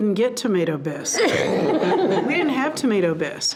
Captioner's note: all laughing